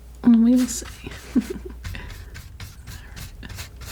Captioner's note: laughing